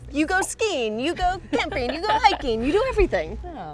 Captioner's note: laughs